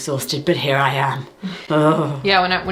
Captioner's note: groans